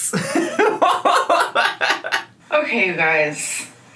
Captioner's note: man laughing